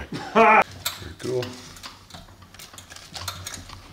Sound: laughing

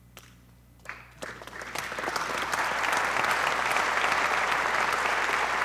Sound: audience applauding

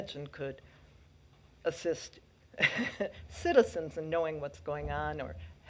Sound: laughs

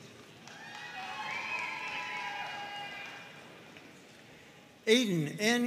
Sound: audience cheering and applauding

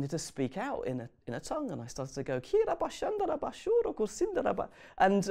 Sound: speaks in tongues

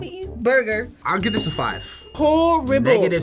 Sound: bell dinging

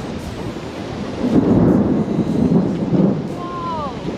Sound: big thunderclap

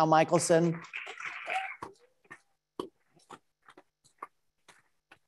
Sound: attendees applauding

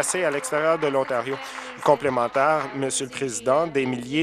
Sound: applause

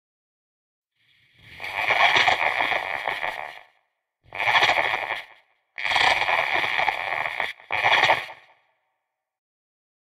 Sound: creature voice

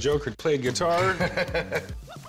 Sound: cackling

